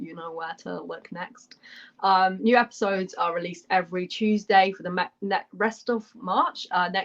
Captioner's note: none